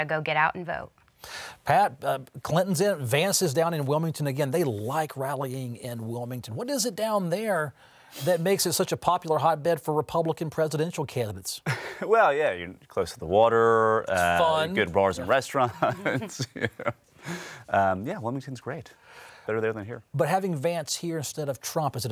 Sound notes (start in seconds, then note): 18.5 laughs